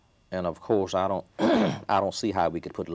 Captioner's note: coughing